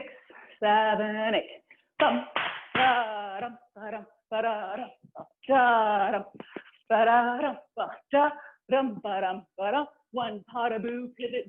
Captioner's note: applause; vocalizing a rhythm